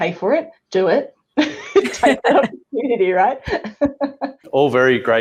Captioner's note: laughs